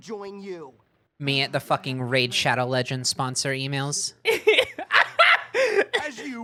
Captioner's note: laughing